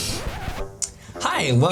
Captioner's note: record scratch